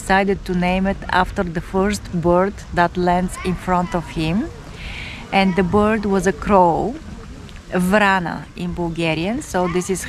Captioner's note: in Bulgarian